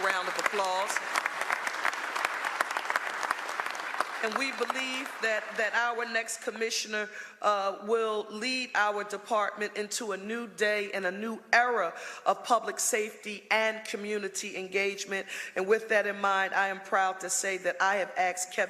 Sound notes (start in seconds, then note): 5.3 applause